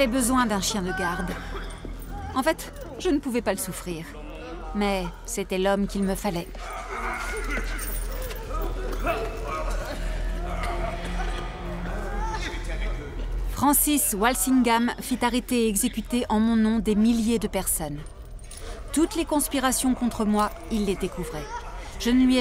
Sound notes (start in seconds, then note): 10.8 woman cries